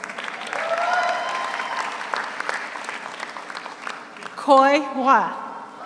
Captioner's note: audience cheers; audience applauds